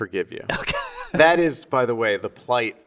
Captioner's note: laughing